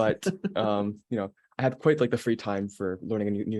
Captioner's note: laughing